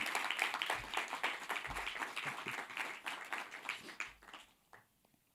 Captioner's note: audience applauding